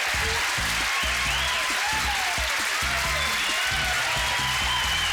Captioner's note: cheering and applause